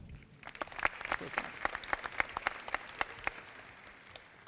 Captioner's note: audience clapping